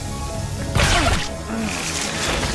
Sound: dart fires

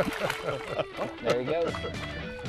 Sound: splash; laughter

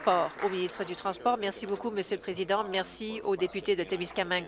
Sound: applause

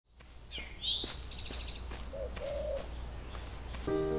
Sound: forest ambient noises

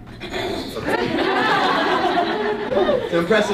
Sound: everyone laughing

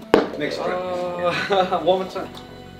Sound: ball hits board

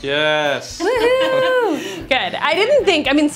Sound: laughs

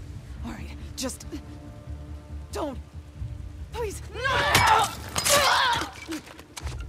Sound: screams

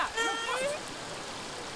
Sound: dog whimpers

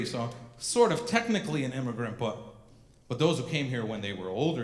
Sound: none

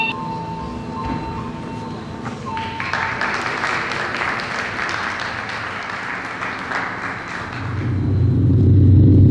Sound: audience applause

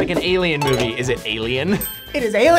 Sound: bell dings

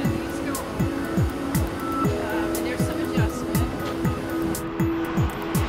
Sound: background talking; airplane takes off

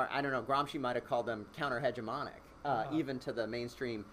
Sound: voice muffled

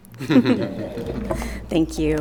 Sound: laughing

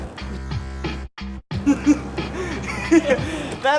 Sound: laughter

